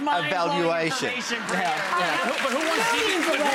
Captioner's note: audience clapping